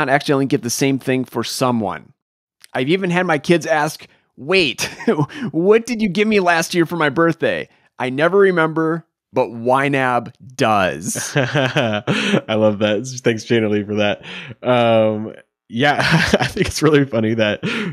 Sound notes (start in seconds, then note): 4.8 chuckles; 11.1 laughing